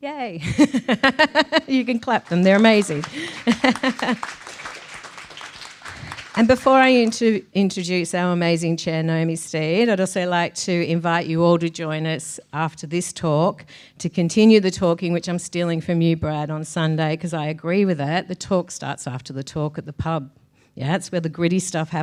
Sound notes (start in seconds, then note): 0.3 person laughing; 4.0 audience clapping